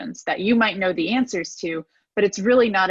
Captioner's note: none